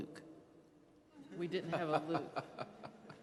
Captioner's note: laughing